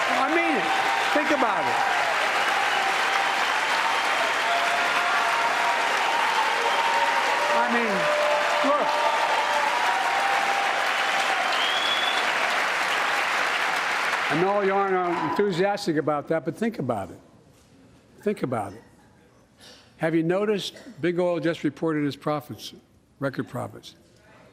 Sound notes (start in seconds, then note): 6.9 applause